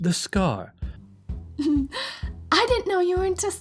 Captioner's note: Iris laughs